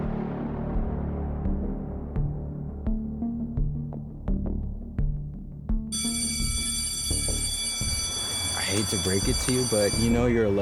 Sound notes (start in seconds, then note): 0.1 tense music continues; 5.9 school bell ringing